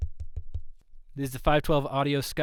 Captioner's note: tapping sounds